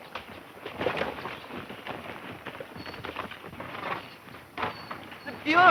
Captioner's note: horses galloping